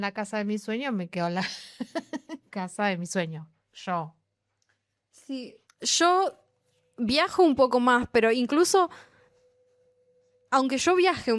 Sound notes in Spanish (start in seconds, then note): 1.4 risas